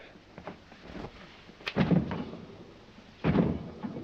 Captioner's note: thudding